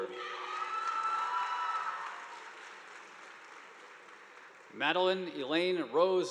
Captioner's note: students cheering; audience applauding